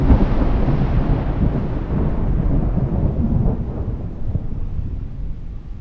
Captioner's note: thunder rumbles